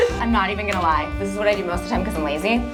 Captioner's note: chuckles